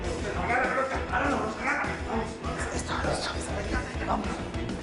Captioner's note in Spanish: Exclamaciones